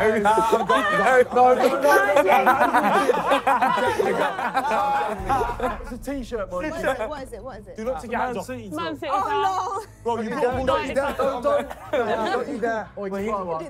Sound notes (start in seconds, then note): 2.0 laughing; 4.0 contestants laughing